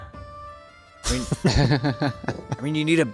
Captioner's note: laughing